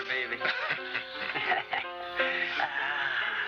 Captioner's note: laughs